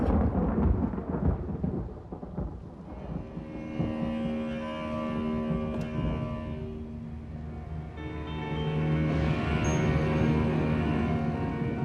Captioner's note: storm; menacing music